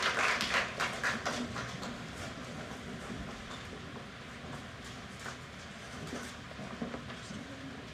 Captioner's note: applause